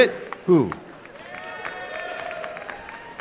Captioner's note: cheering and applause